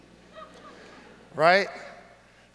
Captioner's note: audience laughs